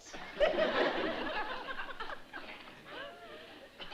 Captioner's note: laughter